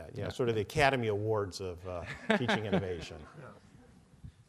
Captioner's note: laughing